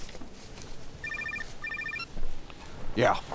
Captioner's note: phone rings